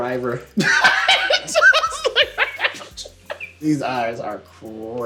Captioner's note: laughs